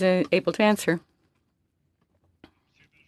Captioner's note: speaking French